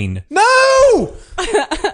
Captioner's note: screams; laughs